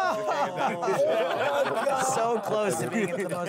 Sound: laughing

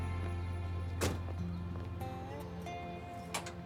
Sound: door shuts

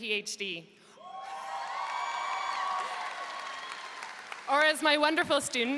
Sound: audience cheering and applauding

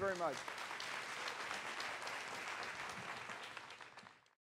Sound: applause

